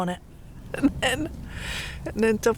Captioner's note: laughing